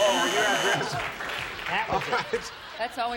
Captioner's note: buzzer